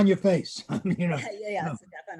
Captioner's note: laughing